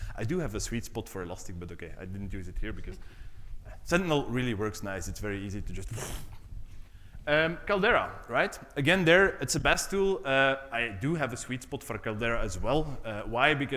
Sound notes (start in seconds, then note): 6.1 rolls lips